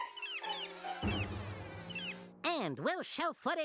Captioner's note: flies buzzing